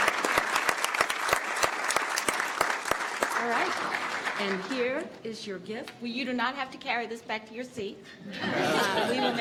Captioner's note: applause